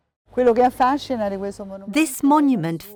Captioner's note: speaking in foreign language